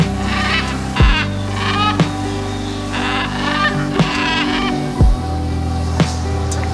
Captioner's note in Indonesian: Suara Burung